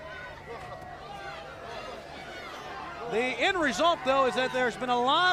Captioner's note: crowd chatter